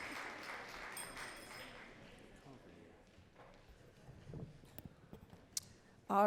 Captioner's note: audience cheering and clapping